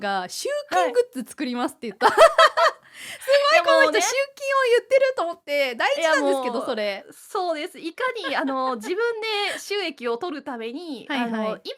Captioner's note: laughs